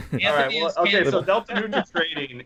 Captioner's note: laughing